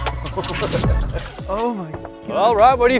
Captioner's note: laughing